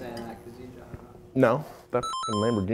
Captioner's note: door chime